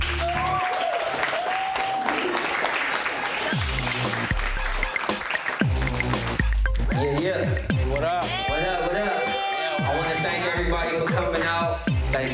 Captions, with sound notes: (audience clapping) (upbeat music) Yeah, yeah, what up? (audience cheering) I wanna thank everybody for coming out.